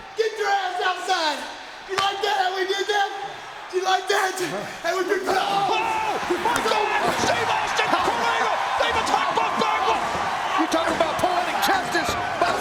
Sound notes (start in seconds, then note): 4.8 wrestlers grunting